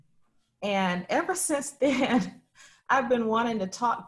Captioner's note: laughs